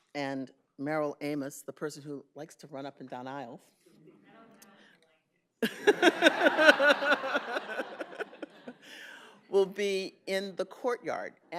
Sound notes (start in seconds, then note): 8.4 laughs